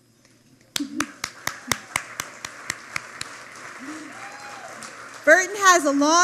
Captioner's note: applause